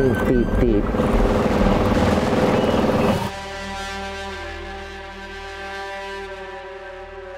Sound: engine droning; suspenseful music continues

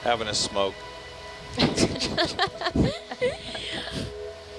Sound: woman laughs

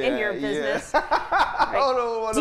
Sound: laughing

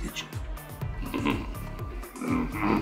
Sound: Hunter grunts; Hunter grumbles

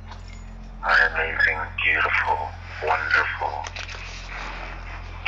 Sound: recorded Voice

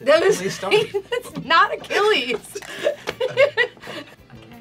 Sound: laughing uproariously

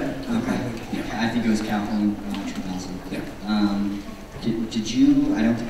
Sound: voiceover

